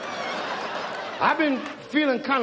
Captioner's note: audience laughs